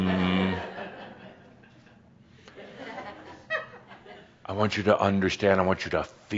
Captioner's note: a few chuckles